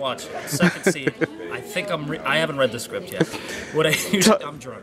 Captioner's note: laugh